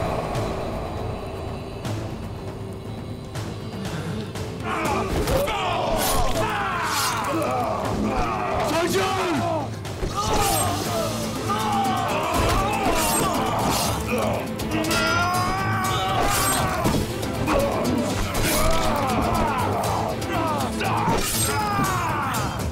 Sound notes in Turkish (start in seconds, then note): 4.6 Bağırma sesleri; 15.6 Bağırma sesleri; 15.6 Müzik - Heyecanlı